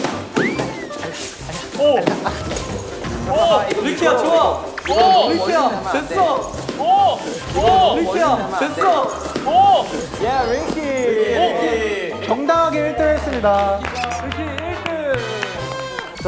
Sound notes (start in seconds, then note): 2.3 thud!